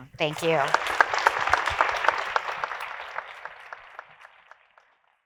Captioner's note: audience applauding